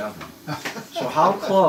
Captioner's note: laughs